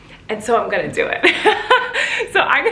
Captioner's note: laughs